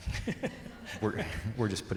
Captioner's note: laughing